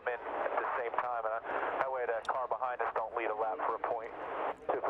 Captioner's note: radio